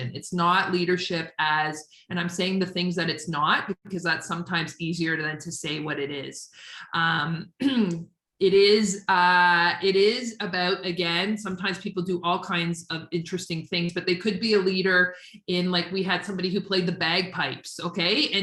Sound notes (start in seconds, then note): 7.6 clears throat